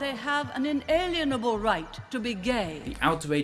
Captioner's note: none